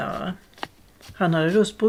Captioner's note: the sound of steps